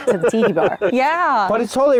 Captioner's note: laughs